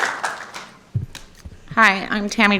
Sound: applause

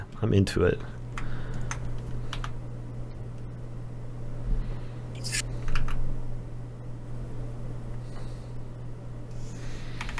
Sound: typing

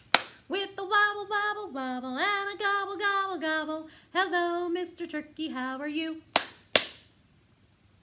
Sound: clap clap; clap clap

